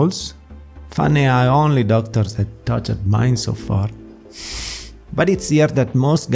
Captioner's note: exahale